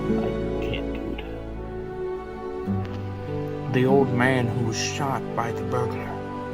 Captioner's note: none